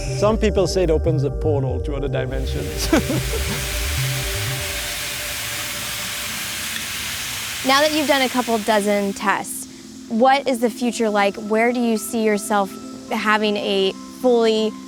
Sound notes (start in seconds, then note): 3.9 engine venting